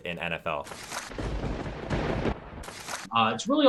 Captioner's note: thunder rumbling